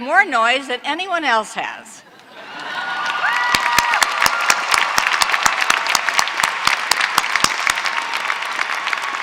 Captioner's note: applause